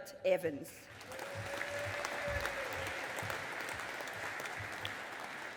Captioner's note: audience applauding